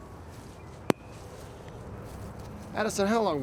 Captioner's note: golf club thuds